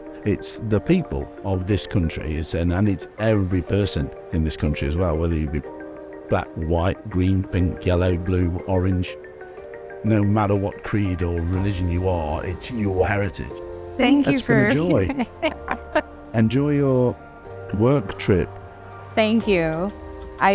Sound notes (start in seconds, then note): 14.3 laughing